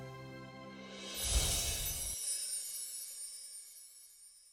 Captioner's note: chimes tinkling